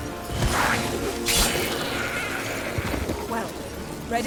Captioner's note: shrieks